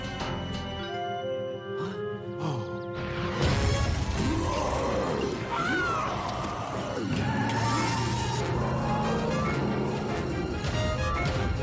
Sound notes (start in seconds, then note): 4.0 roars; 4.2 screams